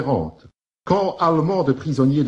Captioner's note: German